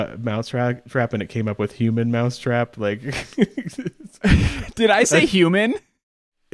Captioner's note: laughs